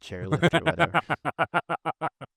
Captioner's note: laughing